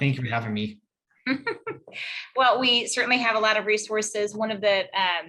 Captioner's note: laughs